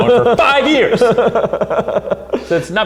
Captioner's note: laughing